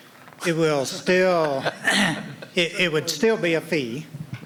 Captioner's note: laughter